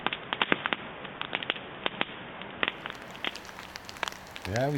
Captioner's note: fire crackling